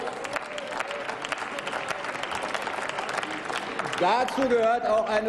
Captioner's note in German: Applaus